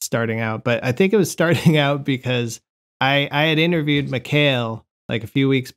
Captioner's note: laughter